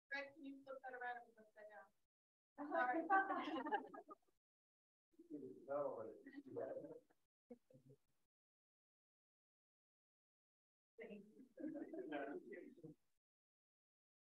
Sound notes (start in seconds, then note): 3.0 audience laughs